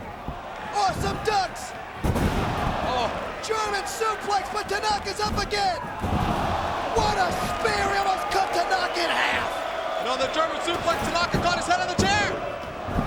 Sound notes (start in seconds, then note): 2.0 bodies slamming